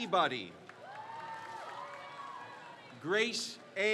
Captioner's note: crowd cheers